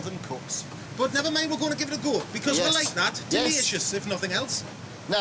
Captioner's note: mimics sizzling sound